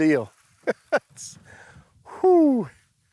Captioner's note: laughs